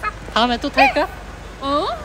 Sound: laughs

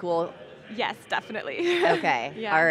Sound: laughing

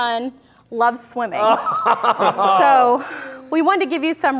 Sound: laughs

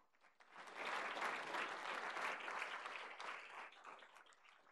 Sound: applause

